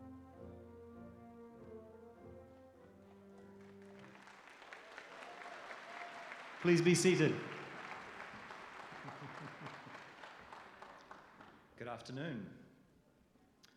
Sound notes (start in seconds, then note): 2.9 applause